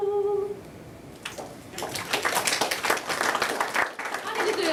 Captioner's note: applause